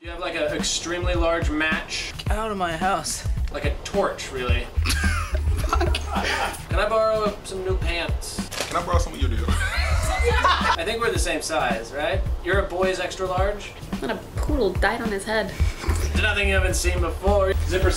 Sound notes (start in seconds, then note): 4.8 laughter; 9.3 laughs